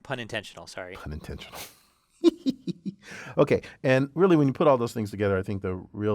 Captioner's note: laugh